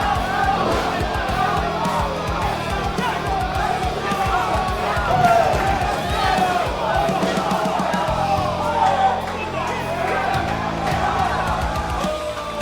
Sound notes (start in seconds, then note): 0.0 crowd going crazy; 1.4 crowd yells with excitement so loud that you can’t hear the referee